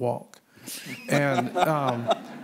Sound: laughter

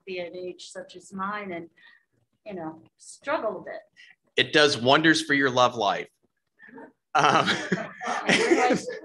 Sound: laughter

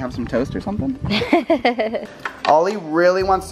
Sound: laughs

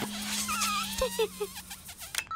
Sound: giggles

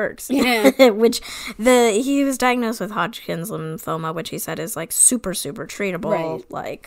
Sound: laughs

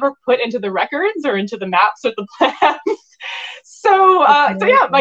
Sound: laughing

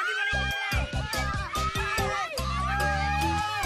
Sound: cheering; cheerful music playing

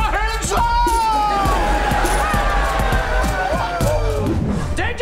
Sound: cheering

